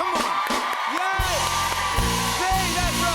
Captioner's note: cheers and applause